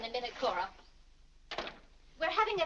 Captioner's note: door closes